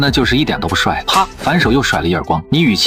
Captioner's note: slap!